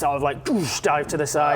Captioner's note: doosh!